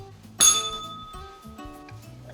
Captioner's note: bell rings